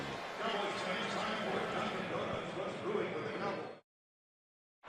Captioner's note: pa announcement